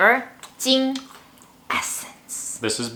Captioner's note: speaks in foreign language